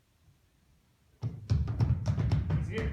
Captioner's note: Footsteps in Benjamin's cell